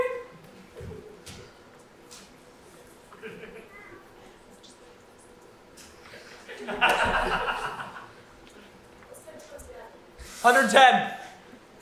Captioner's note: audience laughs